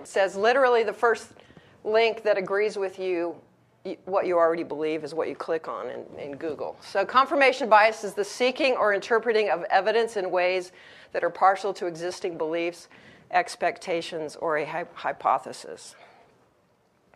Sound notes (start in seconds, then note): none